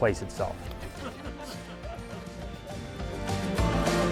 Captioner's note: people laughing; bold upbeat music